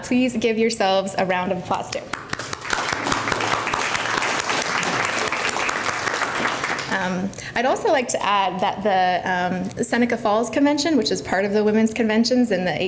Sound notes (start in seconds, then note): 2.1 applause